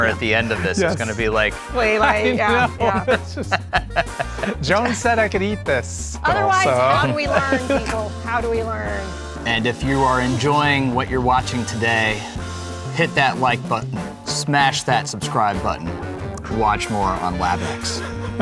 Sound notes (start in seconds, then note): 2.9 participants laughing